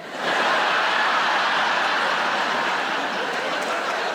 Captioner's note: laughing